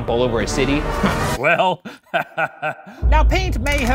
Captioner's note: laughing